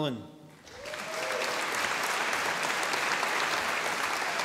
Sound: audience applauding

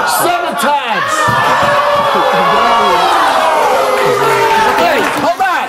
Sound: audience exclaims, boos

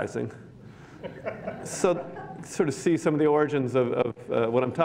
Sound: laughter

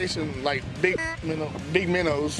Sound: honk sound

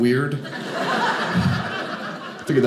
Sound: audience laughing

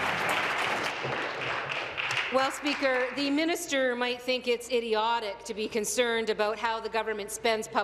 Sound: applause

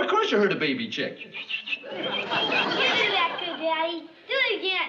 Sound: whistling

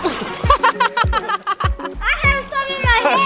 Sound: laughing

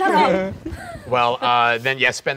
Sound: laughing

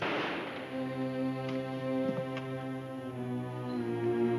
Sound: gunshot bangs

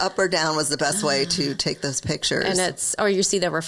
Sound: sighs

